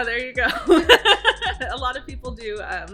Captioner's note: laughs